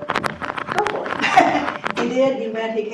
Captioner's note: laughs